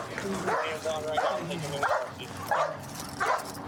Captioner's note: dog barking